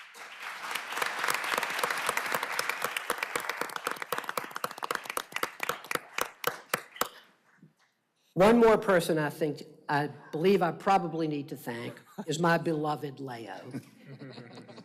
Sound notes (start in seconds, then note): 3.8 applause